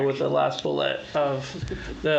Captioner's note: laughs